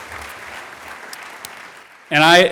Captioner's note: applause